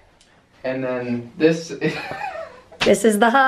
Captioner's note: chuckling